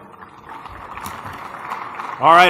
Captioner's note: applause